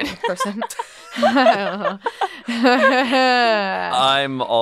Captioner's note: laughs